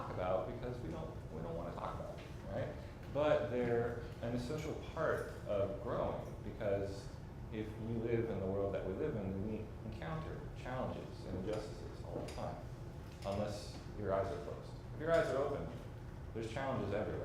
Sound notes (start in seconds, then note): none